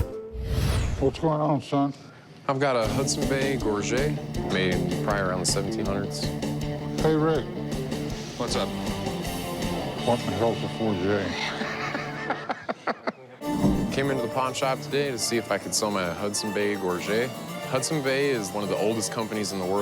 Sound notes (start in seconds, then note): 11.0 laughs